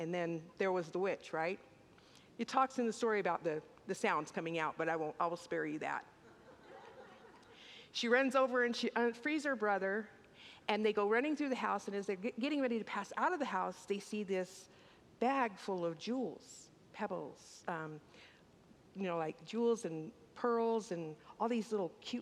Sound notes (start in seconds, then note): 6.3 congregants laugh